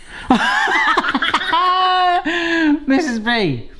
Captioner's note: laughs